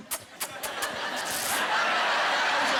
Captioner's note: imitating kissing